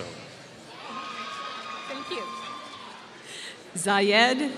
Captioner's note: applause